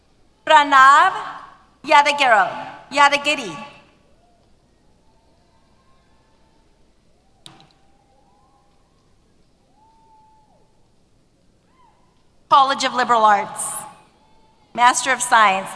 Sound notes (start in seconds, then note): 4.3 cheers